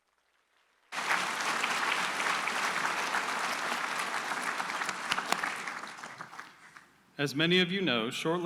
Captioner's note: applause